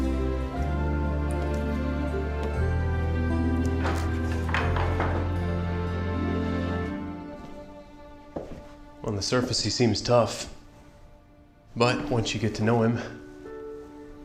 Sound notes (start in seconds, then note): 3.5 door opens; 6.9 footsteps